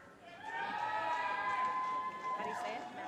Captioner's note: audience cheers and applause